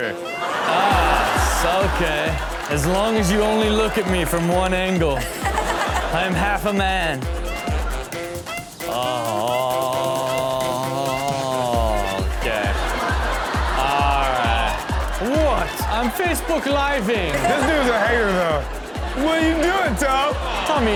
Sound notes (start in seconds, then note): 0.0 audience laugh; 5.1 Chanel giggles; 17.0 all laugh